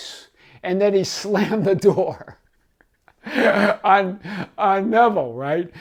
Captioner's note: laughs